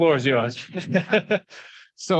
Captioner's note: laughing